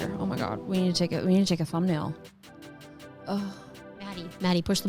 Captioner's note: sighs